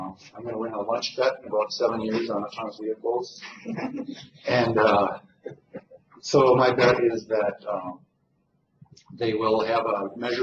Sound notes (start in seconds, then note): 3.4 laughter